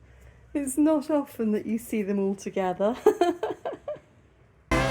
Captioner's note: laughing; funky Christmas music